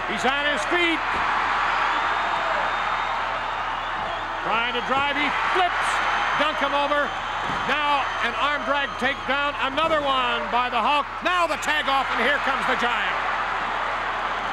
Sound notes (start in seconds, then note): 1.5 crowd cheers